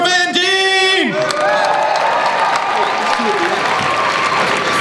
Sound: crowd applauds

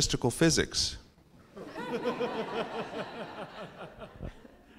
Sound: laugh

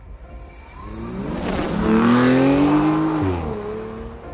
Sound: engine revving

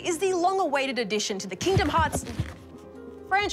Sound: thumping

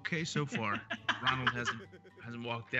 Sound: laugh

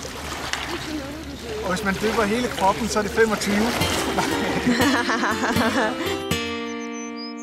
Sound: laughing

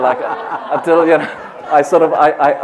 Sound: laughter

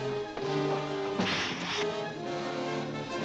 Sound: suspenseful music; hissing; suspenseful music

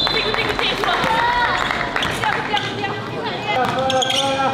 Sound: she has fight will! receives applause from teammates and fans

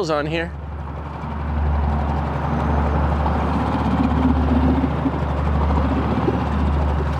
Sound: motor rustling; ominous music

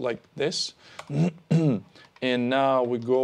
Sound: clears throat

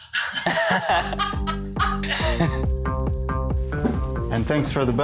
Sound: laughter

